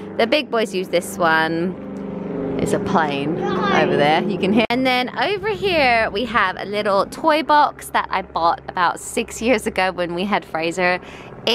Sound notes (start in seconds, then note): 2.1 plane engine roars